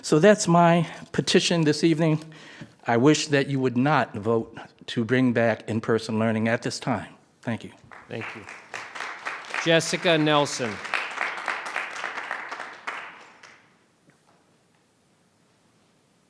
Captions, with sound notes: So that's my petition this evening, I wish that you would not vote to bring back in-person learning at this time. Thank you. - Thank you. (audience clapping) - Jessica Nelson.